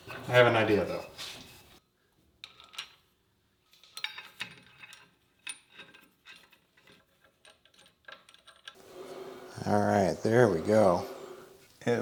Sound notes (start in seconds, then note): 3.7 screws clinking